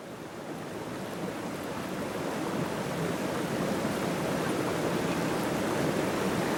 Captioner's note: water echoing in the canyon